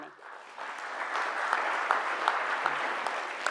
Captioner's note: crowd applauds